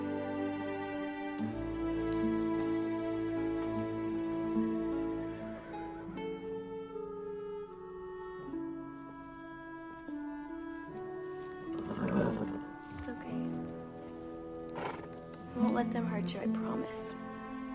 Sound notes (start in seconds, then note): 11.6 neighs